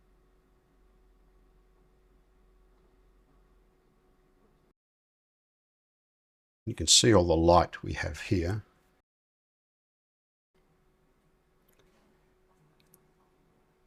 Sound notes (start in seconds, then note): 0.0 silence; 8.7 silence